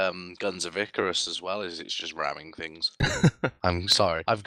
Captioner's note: luaghs